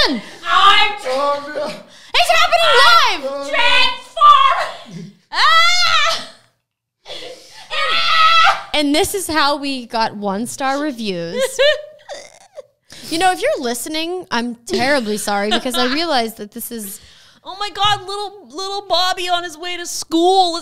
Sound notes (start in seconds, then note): 0.2 yelling and groaning; 6.4 yelling